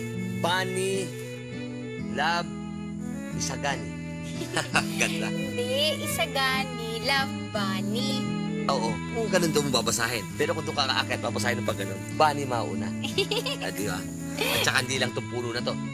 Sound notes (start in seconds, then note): 4.3 chuckles; 13.0 Bunny giggles